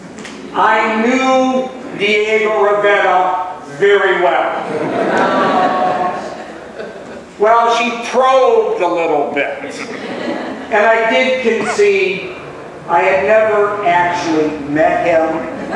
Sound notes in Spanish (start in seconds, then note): 4.6 laughs; 9.3 laughs